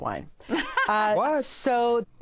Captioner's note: laughs